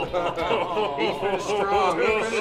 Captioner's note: laughs; laughter drowns out talking